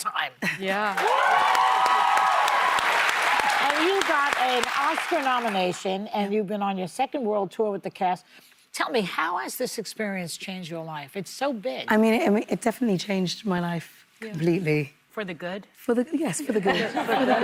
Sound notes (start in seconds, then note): 3.8 cheers and applause